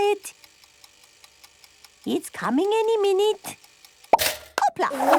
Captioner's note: toaster ticking; pops